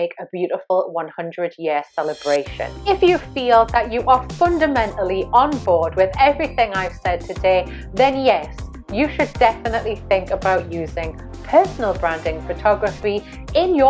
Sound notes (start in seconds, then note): none